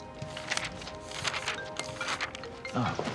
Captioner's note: cell phone ringing